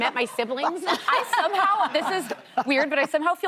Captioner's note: laughter